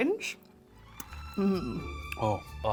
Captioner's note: moans happily